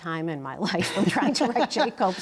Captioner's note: laughter